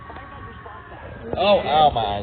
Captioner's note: voice screeching